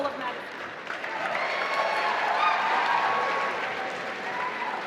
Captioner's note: applause